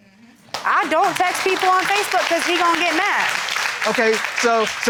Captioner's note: audience applauding